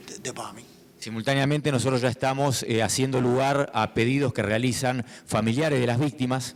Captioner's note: speaking in foreign language